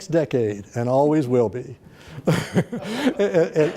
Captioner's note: laughs; laughter